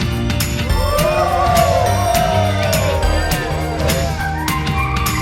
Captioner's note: cheers